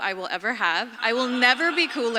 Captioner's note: audience laughs